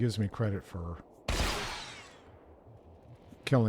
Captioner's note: gunshot